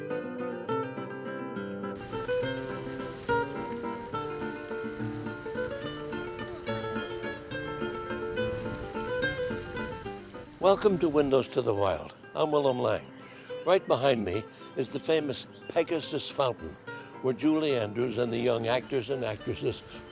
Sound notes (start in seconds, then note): 1.9 fountain water rushing; 5.8 street-goers chattering; 8.8 fountain water rushing